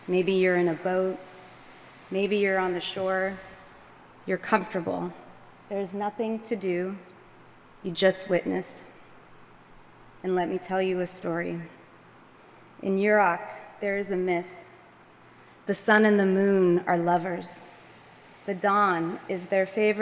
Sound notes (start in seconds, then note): none